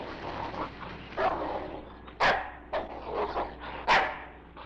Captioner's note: dog barking